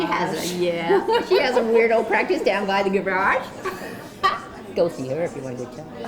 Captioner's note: laughs